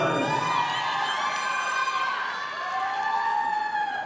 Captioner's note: audience applauding